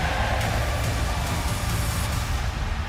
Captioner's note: crowd cheering